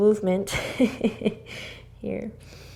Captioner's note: laughter